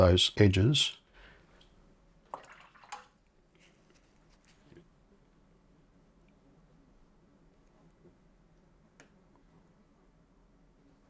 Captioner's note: silence